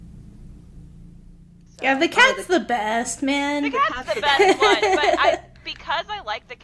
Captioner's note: laughter